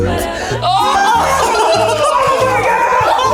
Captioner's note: all laughing